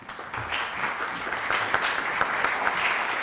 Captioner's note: applause